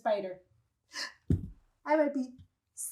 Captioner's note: gasps dramatically